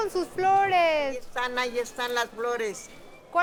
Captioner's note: speaking Spanish